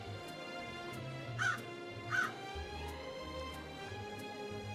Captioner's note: Joan caws